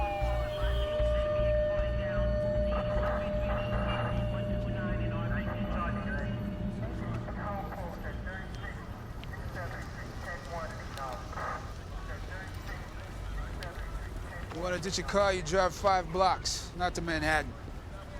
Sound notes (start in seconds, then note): 4.4 police radio chatter; 8.2 sizzling